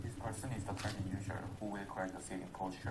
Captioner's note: voiceover